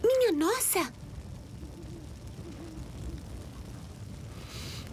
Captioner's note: owl hooting